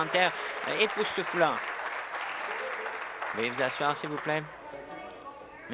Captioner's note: applause